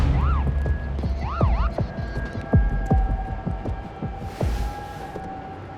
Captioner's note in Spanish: Sirenas